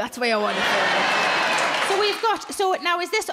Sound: crowd cheer

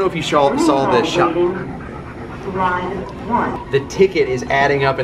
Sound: PA announcement blares

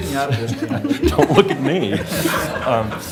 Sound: laughter

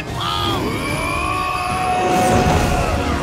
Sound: yelling

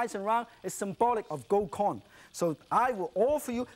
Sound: speaks in foreign language

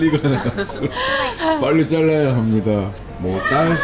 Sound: laughing

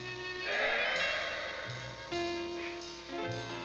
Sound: sighing; gentle instrumental music

